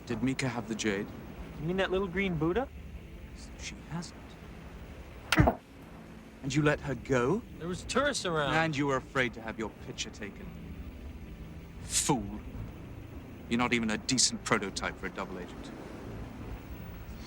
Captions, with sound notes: - Did Mika have the jade? - You mean that little green Buddha? - So she has it? (Kane smacking) And you let her go? - There was tourists around. - And you were afraid to have your picture taken? Fool! You're not even a decent prototype for a double agent.